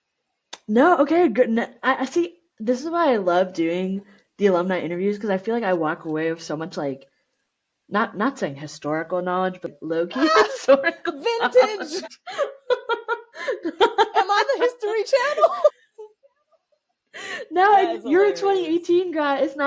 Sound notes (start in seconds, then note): 10.1 laughter